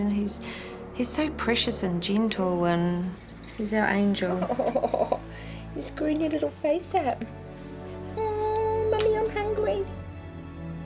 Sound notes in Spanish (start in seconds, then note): 4.2 Risas; 10.0 Música lenta de orquesta